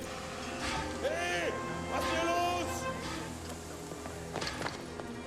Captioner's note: speaking german